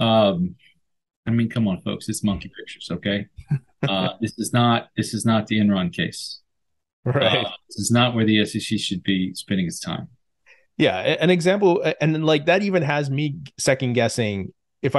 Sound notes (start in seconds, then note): 3.4 laughs